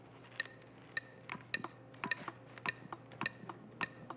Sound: metranome ticks

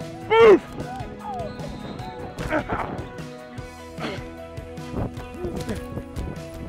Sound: grunting

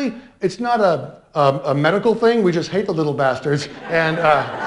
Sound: laughter

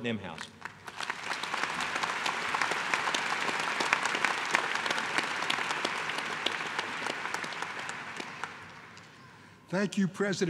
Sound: applause

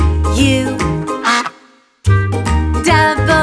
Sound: duck quacks

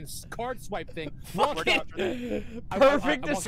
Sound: laughing

